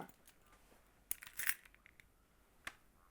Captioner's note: keys jingling